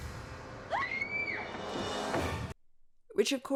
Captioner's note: screams